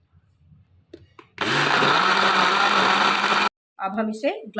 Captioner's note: grinding